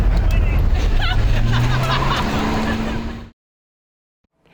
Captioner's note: woman laughing